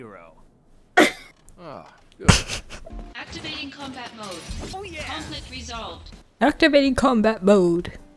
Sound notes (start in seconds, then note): 1.2 wheeze; 2.2 laugh